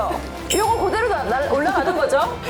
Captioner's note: checking sound effect